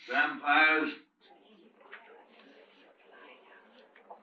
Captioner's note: people murmuring